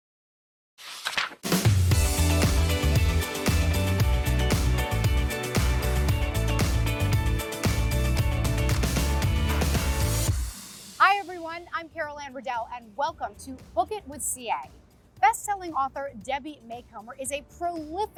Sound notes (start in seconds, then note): 0.8 page flips; 1.5 theme Music